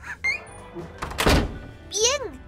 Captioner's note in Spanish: abre y cierra puerta